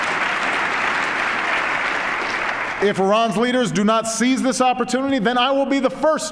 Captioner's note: applause